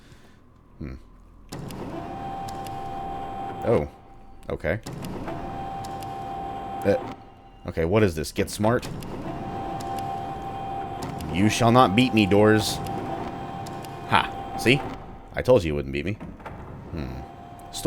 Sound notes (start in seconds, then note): 4.9 doors opening